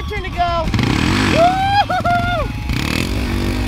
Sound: dirt bike engine revving

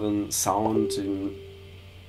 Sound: dong!

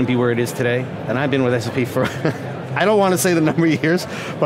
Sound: chuckles

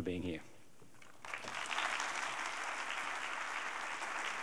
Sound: applause

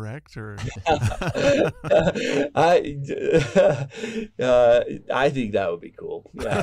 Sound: laughter

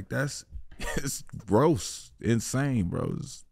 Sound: chuckles

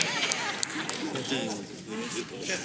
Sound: cheering

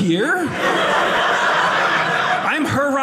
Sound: audience laughing

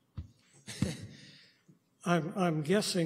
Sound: chuckles

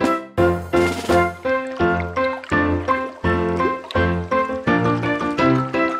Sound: bright music; water burbles

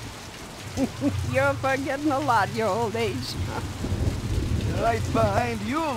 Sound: snickers

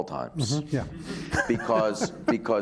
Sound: laughing

